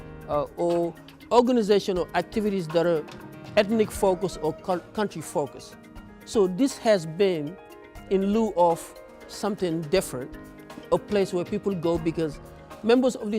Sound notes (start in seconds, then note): none